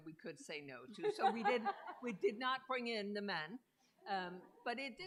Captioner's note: laughter